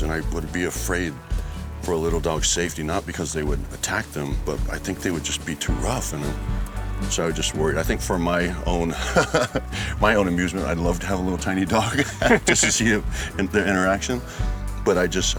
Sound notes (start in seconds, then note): 8.8 laughs